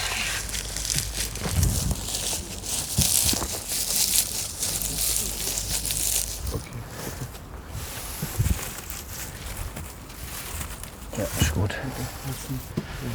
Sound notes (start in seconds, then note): 1.5 rustling